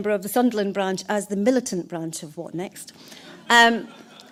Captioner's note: laughter